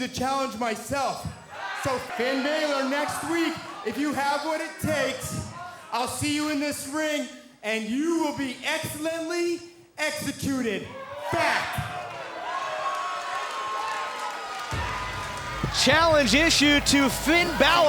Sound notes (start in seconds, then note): 10.8 crowd cheering